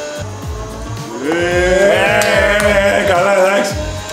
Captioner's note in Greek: πανηγυρισμοί